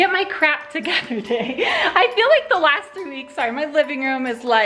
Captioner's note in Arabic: يضحك